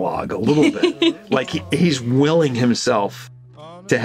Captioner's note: laughs